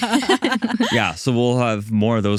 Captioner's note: laughing